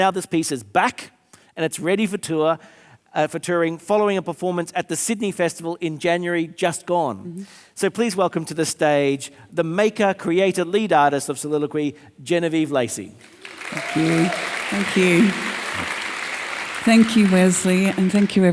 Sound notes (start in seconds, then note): 13.2 audience applauding